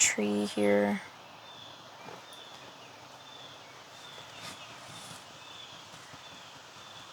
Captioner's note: birds Chirping